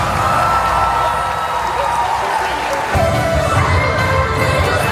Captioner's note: audience cheering; audience applauding; upbeat music